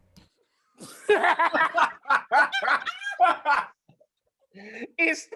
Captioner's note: laughter